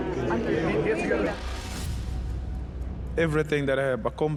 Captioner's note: crowd chattering